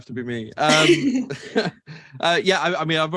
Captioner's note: laughs; chuckles